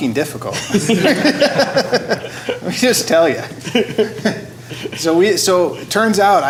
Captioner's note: laughing